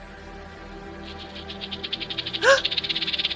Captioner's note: snake rattles; Tiffany gasps